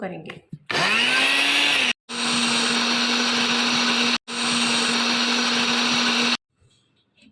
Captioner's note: grinding